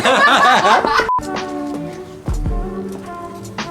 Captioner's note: laughing